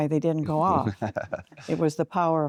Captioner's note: chuckling